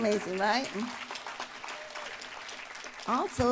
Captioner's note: applause